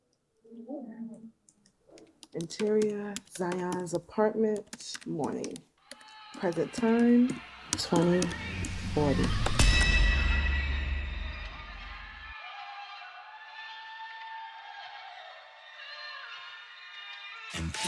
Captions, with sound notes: Interior of Zion's apartment, morning. Present time. 2040. (dramatic music) (people vocalizing)